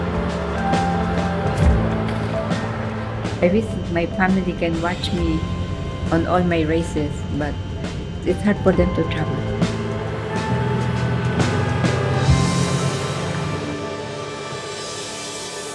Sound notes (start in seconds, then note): 0.0 airplanes roaring; 9.9 cars, car horns